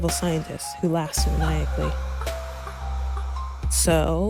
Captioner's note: sound effect of a woman laughing creepily in the background